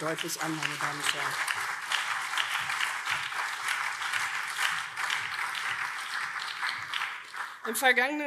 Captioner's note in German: Beifall CDU, SPD und BÜNDNIS 90/DIE GRÜNEN